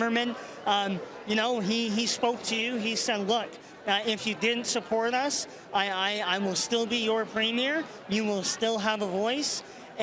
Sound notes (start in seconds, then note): none